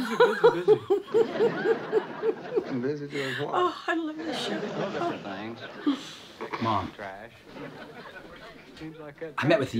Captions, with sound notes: (laughing) Oh, I love this show. - Mom, I met with the FBI today.